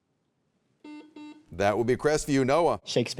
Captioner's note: buzzer beeps